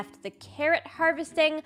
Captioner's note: none